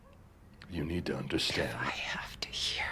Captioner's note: none